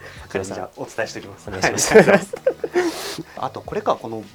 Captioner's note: laughs